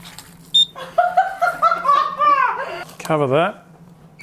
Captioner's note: laughing at squelching sound